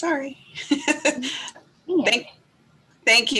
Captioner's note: laughs